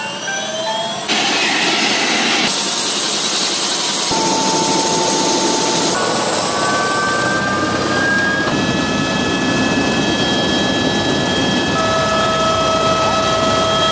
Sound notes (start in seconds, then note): 0.8 helpcopter sound